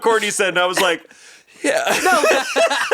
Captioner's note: laughs